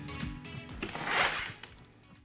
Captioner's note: door opening